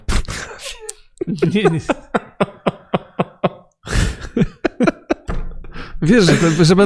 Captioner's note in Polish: śmiech